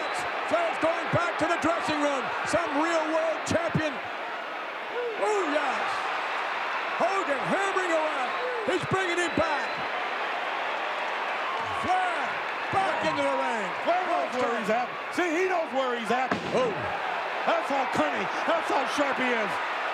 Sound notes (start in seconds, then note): 10.0 audience cheering; 19.7 audience cheering